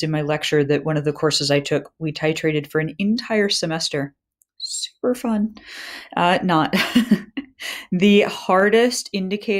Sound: laughter

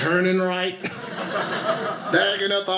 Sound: audience laughing

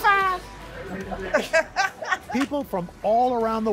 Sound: laughter

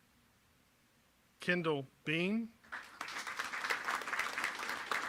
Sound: applause

